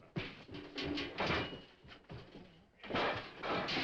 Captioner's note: pots banging